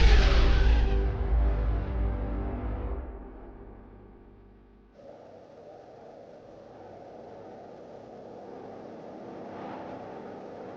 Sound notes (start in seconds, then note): 4.9 wind howling; 7.9 intense music